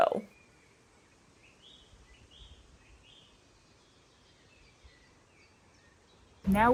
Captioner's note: quiet nature sounds